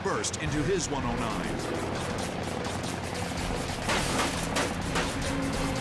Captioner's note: guns firing